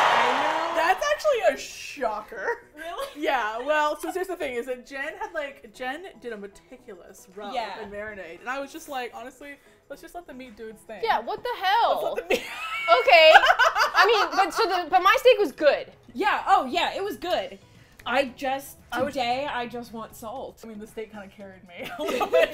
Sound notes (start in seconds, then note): 12.2 laughs; 21.9 all laugh